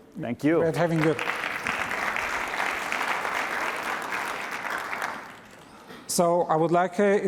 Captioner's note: applause